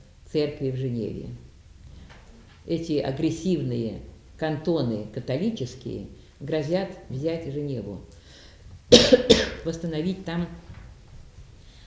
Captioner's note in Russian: кашляет